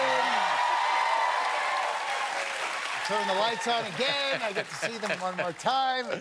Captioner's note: cheers and applause